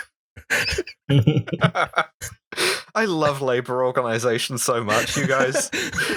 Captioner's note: laughter